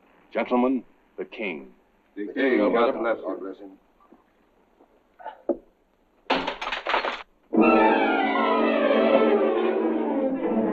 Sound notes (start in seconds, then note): 6.3 glass shattering; 7.6 intense dramatic music